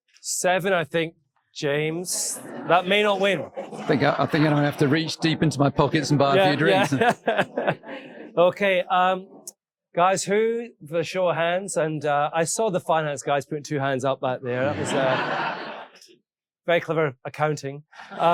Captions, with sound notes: seven I think, James, that may not win. - I think I'm going to have to reach deep into my pockets and bar a few drinks. - Yeah. (laughs) Okay, guys, who the show of hands and I saw the finance guys putting two hands up back there that was very clever accounting.